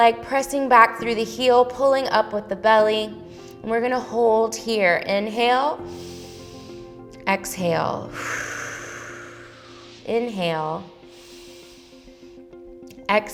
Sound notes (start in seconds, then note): 5.8 inhales; 8.0 exhales; 10.9 inhales